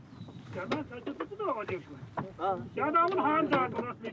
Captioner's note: foreign spoken audio